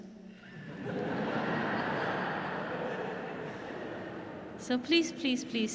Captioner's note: audience laughs